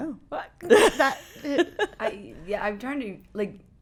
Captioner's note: laughing